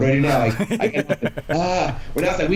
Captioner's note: laughs